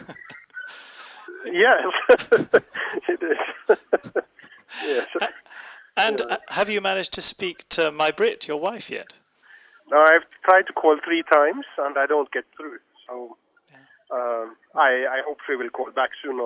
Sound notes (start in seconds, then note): 4.1 laughs